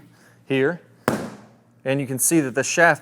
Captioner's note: club thwacks